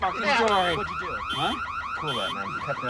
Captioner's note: car alarm